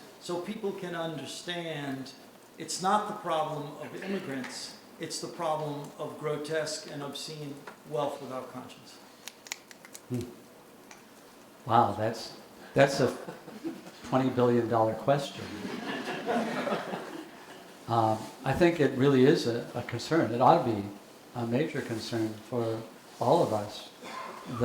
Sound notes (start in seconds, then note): 15.4 audience laughing